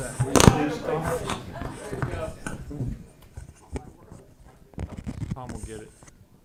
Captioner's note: laughter